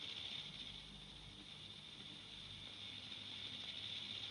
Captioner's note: sonajeros de serpientes